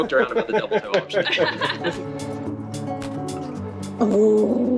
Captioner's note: all laugh